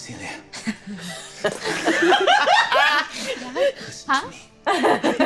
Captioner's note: all laughing